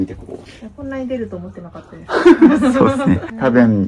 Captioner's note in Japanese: 笑い